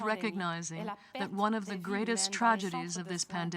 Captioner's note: speaking french